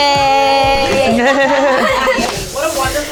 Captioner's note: group chattering; group laughing